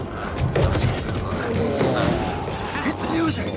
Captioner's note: glowzies growling; dramatic music continues